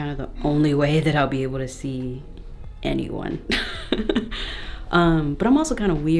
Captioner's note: laughs